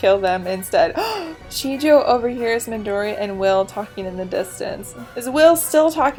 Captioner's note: gasp